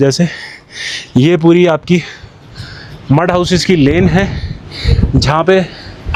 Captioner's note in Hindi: अचानक ज़ोर से सांस लेने की आवाज़